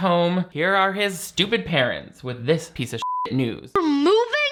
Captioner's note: beep